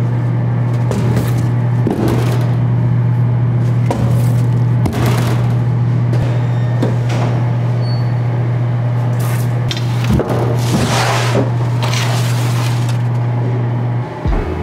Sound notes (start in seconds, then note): 6.4 machinery humming and squeaking; 9.7 tool scraping